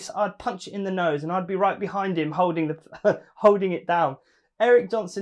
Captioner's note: laughing